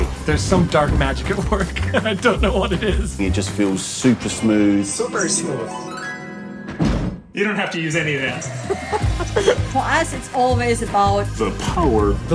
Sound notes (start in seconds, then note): 6.7 thuds